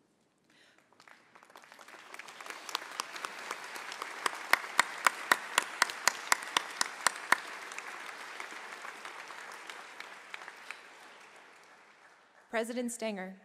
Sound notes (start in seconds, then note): 0.4 applause